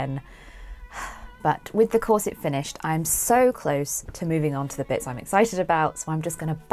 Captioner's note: sighs